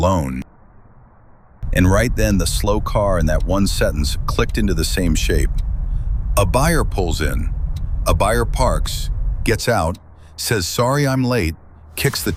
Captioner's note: car